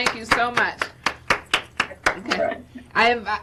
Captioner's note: clapping